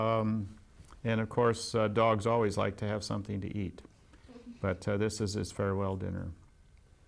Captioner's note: laughs